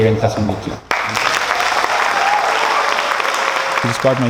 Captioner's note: applause